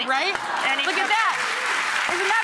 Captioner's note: applause